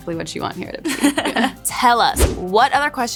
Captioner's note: laughs